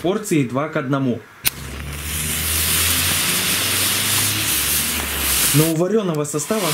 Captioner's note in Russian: шипение